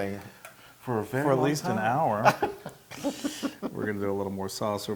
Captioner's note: laugh